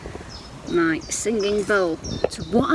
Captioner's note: birds chirping